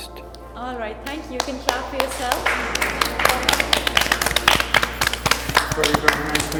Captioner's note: group claps